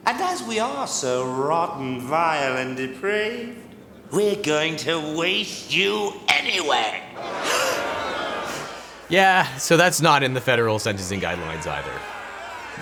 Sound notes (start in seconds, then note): 7.1 crowd shouting angrily; 7.4 gasps